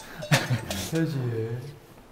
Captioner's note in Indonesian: Suara gua alam